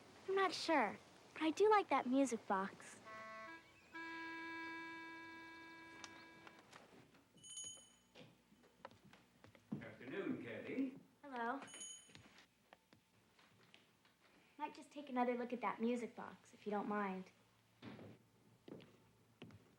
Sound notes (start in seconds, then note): 3.0 plucky music; 7.4 bell dings; 11.6 bell dings